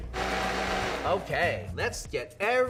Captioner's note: blender running